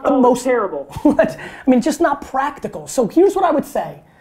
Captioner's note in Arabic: يضحك